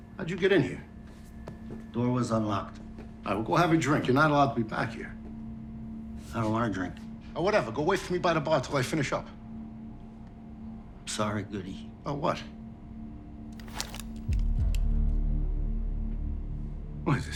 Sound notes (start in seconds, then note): 13.5 deep ominous music; 13.6 gun clicking